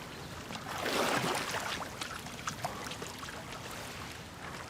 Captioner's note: water splashing